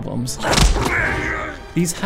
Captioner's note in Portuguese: grito